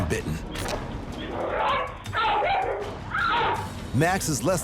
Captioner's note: woman screams; dog barking